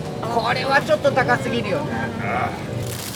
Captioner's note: Speaks Japanese